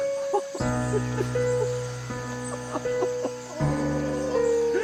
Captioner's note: Nick Sobbing; mysterious Piano Music Continues